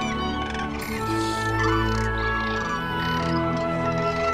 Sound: cranes trumpet and call loudly

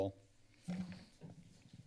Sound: microphone sound

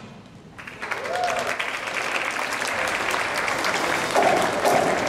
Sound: cheers and Applause

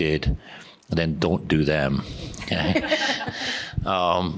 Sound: laughing

